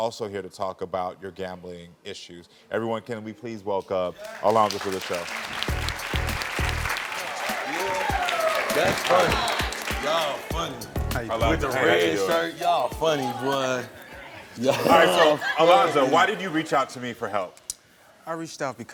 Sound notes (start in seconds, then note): 4.1 audience applauds; 5.6 soft music